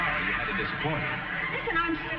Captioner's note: audience laughing